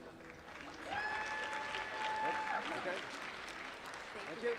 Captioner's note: applause